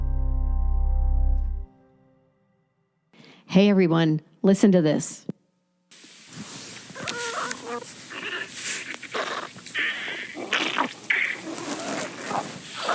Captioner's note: bowel sounds